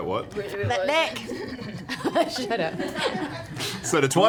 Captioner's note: laughs